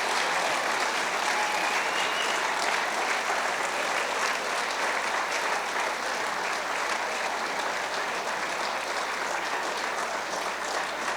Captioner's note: cheers and applause